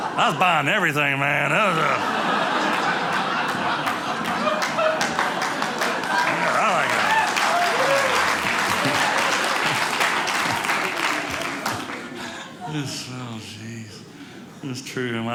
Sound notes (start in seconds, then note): 0.0 audience laughing; 1.5 audience cheering